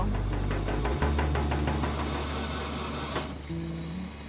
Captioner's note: machinery rattling